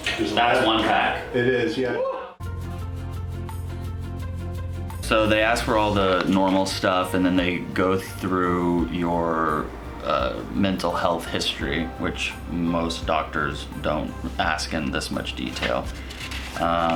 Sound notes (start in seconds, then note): 2.1 woo; 2.4 upbeat music